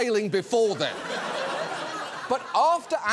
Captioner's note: audience laughs